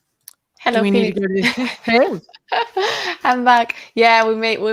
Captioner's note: laughs